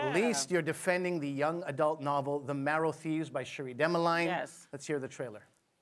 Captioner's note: applause